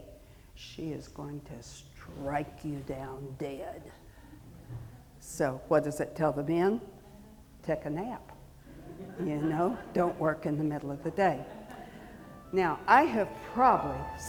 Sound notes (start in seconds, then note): 8.7 audience chuckling; 12.1 inspiring music